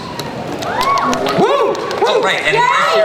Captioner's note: cast cheers